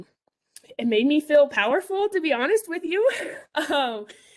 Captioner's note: chuckles